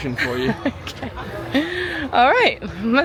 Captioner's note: laughing